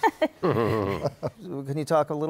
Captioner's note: laughter